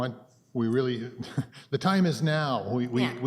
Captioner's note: chuckles